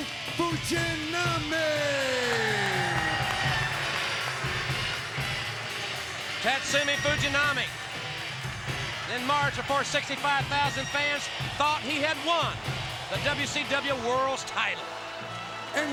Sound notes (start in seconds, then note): 2.4 audience cheering; 2.4 upbeat music continues